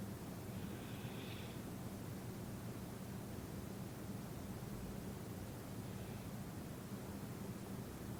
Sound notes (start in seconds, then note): 0.6 inhaling